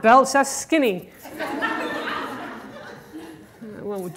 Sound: audience laughter

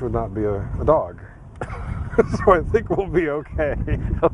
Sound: laughing

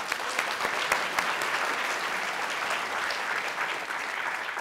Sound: applause

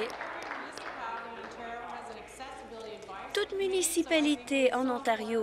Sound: applause

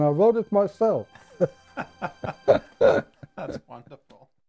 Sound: men laughing

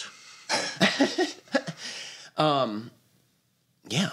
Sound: laughter

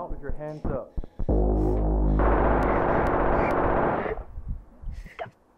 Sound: gunshots

